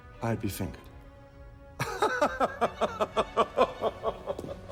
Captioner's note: laughing